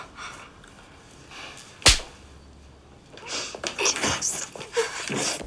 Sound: slapping sound

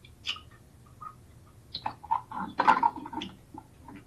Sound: radio echoing

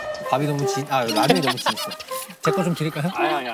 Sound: laughing

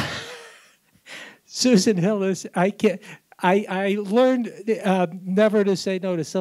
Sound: laughs

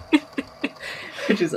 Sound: laughs

